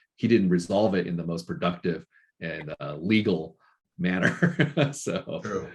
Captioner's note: laughing